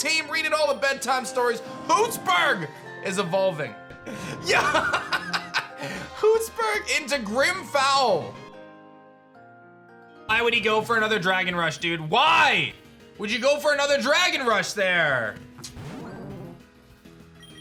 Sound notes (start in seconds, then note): 4.1 laughs